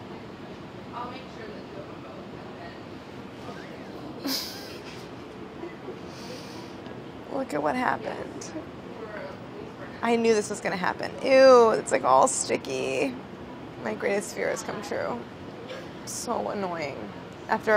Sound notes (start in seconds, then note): 4.2 laughing